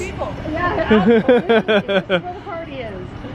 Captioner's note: laughing